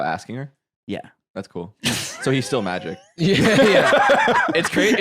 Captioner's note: laughs